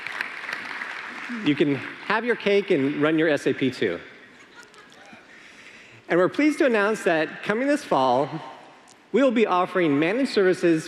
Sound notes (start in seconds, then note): 4.2 laughter